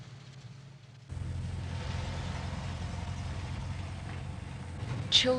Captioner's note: outdoor Sounds